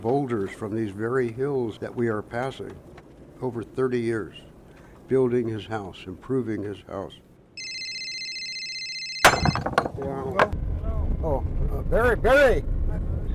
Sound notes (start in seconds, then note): 7.6 cell phone ringing; 9.2 rocks shattering